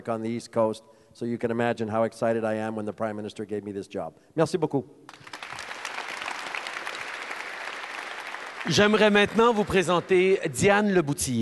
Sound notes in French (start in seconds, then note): 5.0 Applaudissements